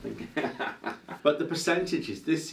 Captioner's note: laughs